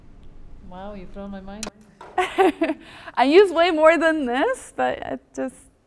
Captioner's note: laugh